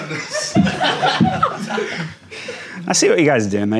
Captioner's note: audience laughing